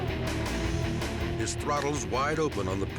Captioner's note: hard rock music continues; motorcycle engines roaring